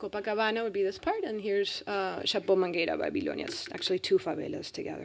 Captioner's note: speaking spanish